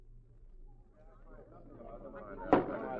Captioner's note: people chattering